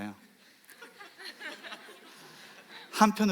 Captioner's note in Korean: 웃음